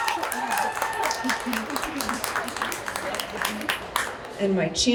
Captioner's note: applause